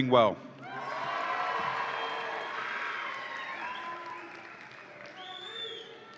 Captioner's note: audience applauds and cheers